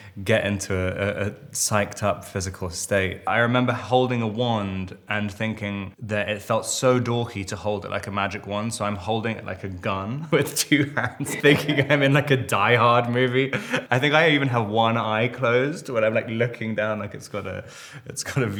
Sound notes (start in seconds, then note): 10.2 Robert laughing